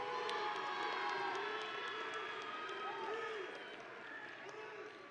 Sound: audience and graduates cheering

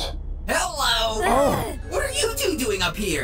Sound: gasping

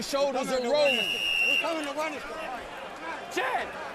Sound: whistle blows

